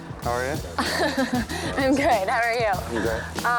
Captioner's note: laughs